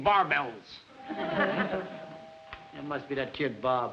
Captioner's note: doorbell rings